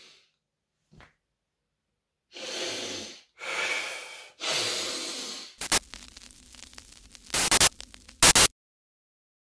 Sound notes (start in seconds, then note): 2.3 sniffs; 5.5 air crackles